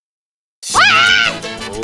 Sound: screaming

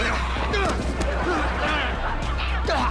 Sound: groaning

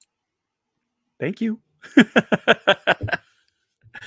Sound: laughing

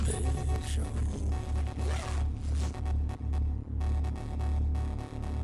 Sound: continues packing as distortion worsens; zips up luggage through heavy distortion

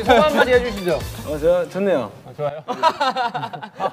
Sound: haha

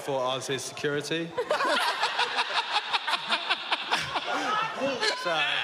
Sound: laughing

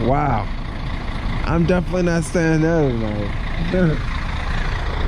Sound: laughs

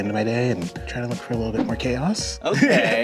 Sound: laughs

